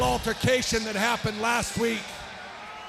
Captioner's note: crowd cheering